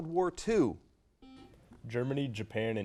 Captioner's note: buzzer noise